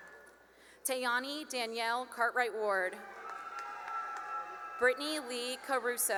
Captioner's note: cheering and applause